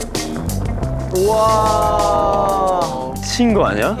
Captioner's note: salivating